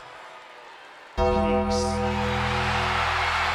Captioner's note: bell tolls; crowd cheers